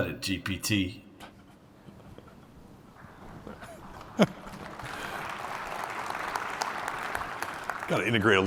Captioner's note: applause